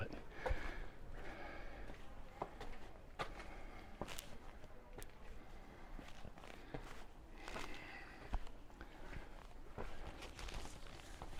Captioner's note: background chatter